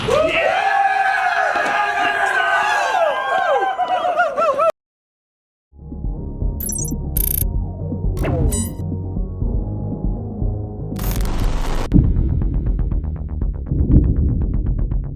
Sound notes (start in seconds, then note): 0.0 group cheers; 8.2 electronic sounds